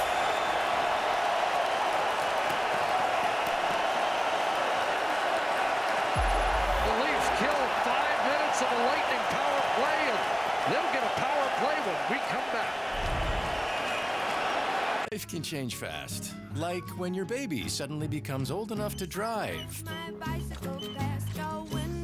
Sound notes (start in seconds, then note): 5.7 cheering and APPLAUSE